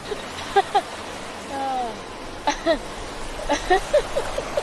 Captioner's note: laughing